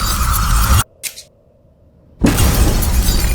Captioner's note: eerie music continues; eyelids click; door bursts open